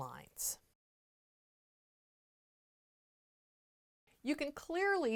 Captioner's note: no Sound Present